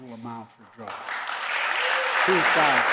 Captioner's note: applause